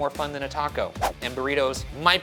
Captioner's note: graphic whooshing